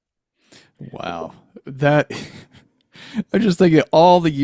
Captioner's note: chuckles